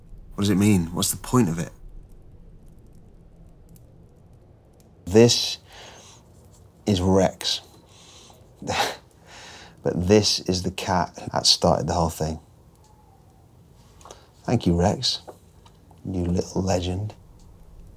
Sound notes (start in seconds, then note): 7.5 chuckles